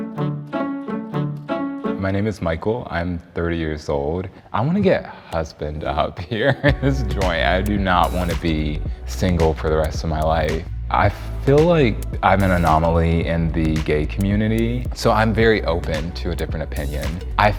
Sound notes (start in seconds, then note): 6.3 chuckles